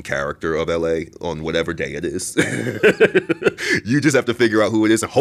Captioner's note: laughs